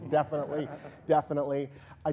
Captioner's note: audience laughing